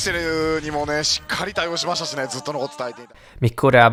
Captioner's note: happy noises